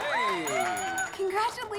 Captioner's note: bell ringing